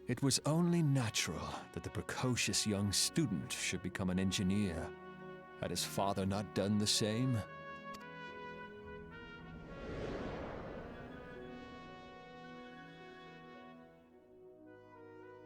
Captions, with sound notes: It was only natural that the precocious young student should become an engineer. Had his father not done the same? (air whooshing)